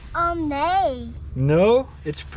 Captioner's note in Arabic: يتحدث بلغة أجنبية